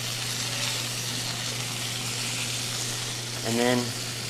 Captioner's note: food sizzling